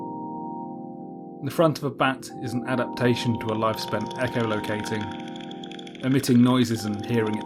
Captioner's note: chirping bat calls echo